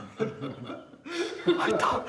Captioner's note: laughter